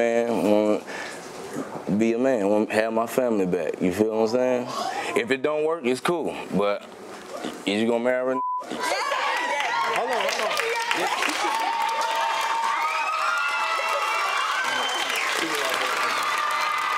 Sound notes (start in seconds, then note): 8.3 beep; 8.8 audience cheer and applaud